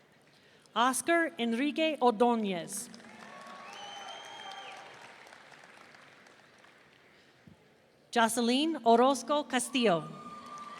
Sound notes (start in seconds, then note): 3.2 audience cheering; 10.2 audience cheering